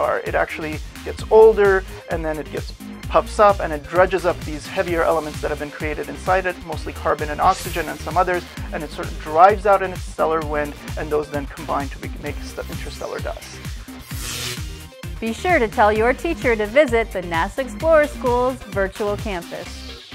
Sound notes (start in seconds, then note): 14.1 sound Effects